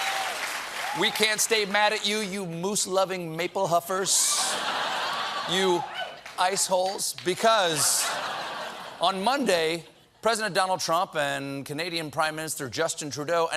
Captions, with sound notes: WE CAN'T STAY MAD AT YOU, YOU MOOSE-LOVING MAPLE-HUFFERS. ( LAUGHTER ) YOU ICE HOLES. ( LAUGHTER ) BECAUSE, ON MONDAY, PRESIDENT TRUMP AND CANADIAN PRIME MINISTER JUSTIN TRUDEAU